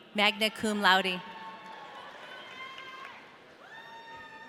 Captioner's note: audience cheering